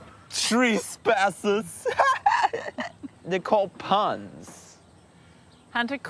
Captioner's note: laughs